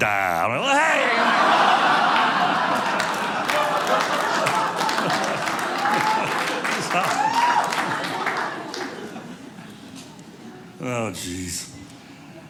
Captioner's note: audience laughing